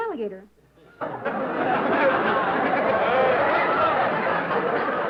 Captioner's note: laughter